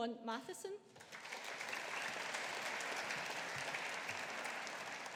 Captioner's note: audience applauding